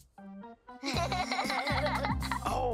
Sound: kids laughs

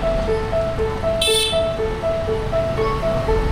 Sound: car honking

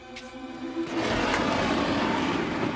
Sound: roaring

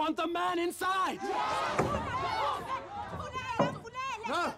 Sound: crowd agreeing

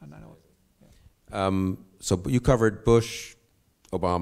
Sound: none

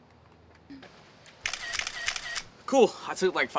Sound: camera flashing

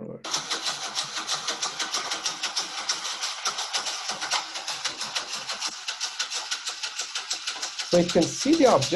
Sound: machine rattling

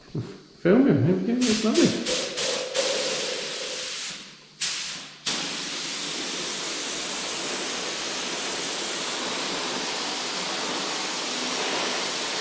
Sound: noise from the spray gun

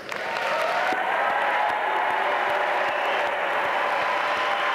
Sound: audience cheering

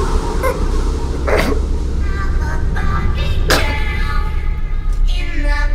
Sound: heavy breathing; intro music

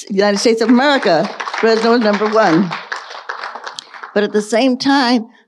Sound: audience applauding

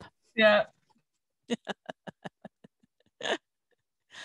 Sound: laughs

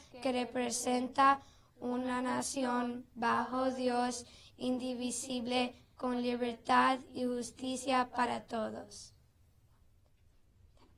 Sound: speaking non-english language

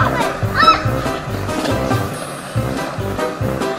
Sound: child screams

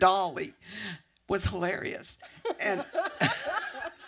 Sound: laughter

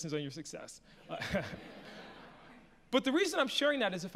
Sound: audience laughs

